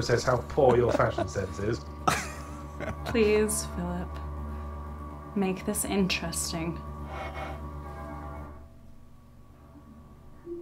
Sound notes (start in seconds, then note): 2.0 laughing